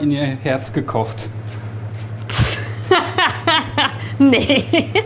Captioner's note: laughs loudly